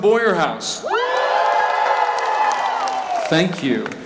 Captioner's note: cheering